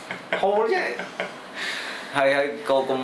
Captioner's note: laughs